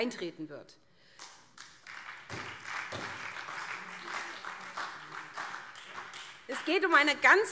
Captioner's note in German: Beifall SPD